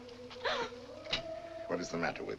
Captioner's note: gasp